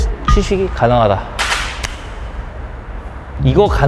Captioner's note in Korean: 감동의 이마 박수